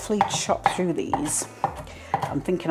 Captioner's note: chop chop chop